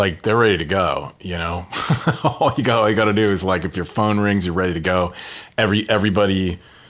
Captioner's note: laughter